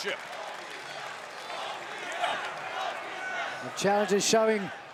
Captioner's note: crowd chants "Both these guys"